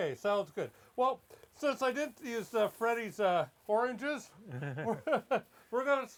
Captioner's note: laughs